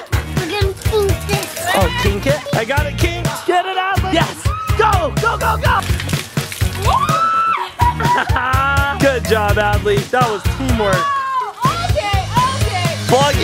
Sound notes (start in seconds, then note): 0.0 laughing; 4.3 screams; 6.7 screams